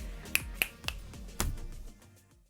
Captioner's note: snapping